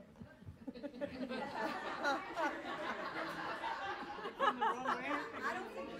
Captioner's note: members laughing and chattering